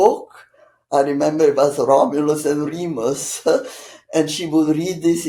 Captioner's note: laughing